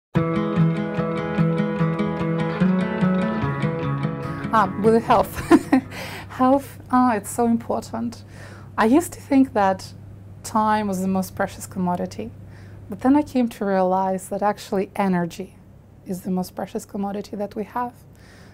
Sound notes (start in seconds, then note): 0.1 upbeat guitar music; 5.3 laughs